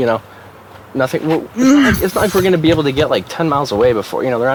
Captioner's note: Victor groans